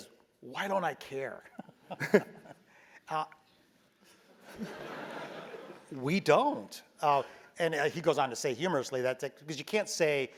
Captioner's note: laugh